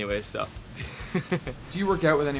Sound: laughing

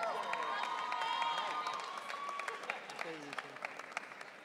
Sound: audience cheering

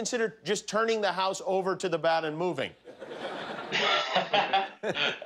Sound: laughter

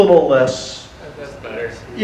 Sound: audience murmur

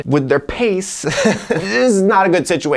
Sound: laughs

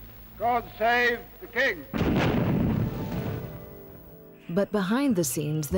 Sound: canon booming

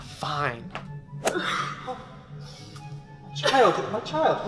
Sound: sobbing, distraught

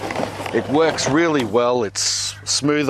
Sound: sifter rattles

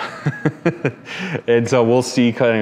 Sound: chuckling

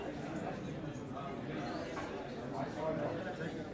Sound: low hum of chatter

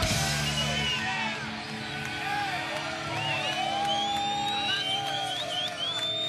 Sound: cheering; whistling

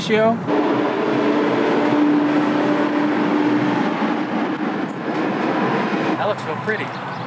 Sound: loud traffic noise

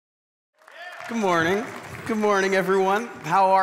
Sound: congregation applauding

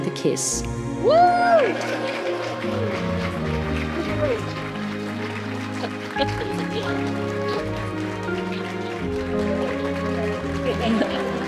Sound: applause

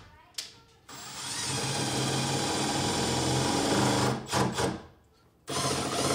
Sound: installing screws with drill

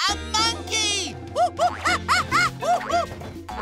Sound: making monkey noises

